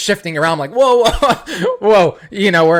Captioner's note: laughs